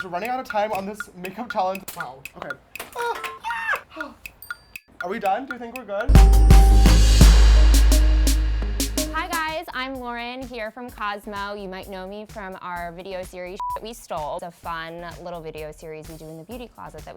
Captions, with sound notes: - We're running out of time on this makeup challenge. Wow. Okay. (tools clanging) Ahh! Are we done? Do we think we're good? (upbeat music) - Hi, guys! I'm Lauren, here from Cosmo. You might know me from our video series, "(beep) We Stole." It's a fun, little video series we do in the beauty closet